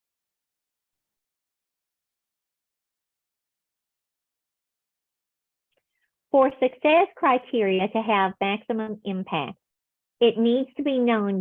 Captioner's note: silence